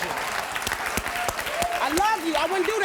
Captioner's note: audience applauding